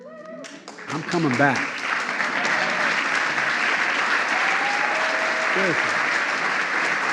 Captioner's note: applause